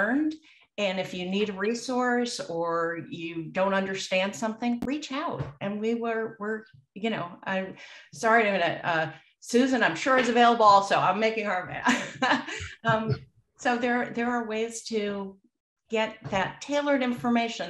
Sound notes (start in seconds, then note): 12.3 laughs